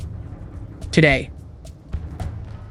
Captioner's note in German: Stimme liest die Notiz vor